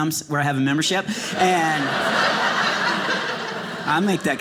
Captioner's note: audience laughing